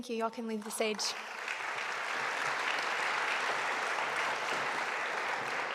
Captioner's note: audience applauding